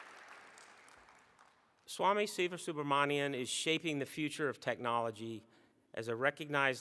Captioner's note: applause